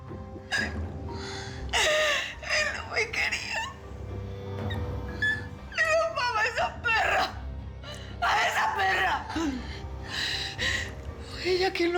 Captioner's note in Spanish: sollozos